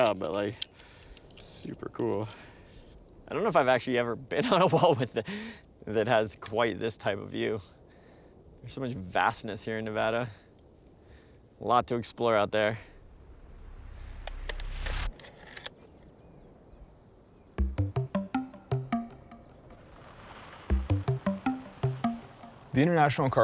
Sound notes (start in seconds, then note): 5.1 laughing